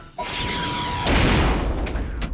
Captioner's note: loud thud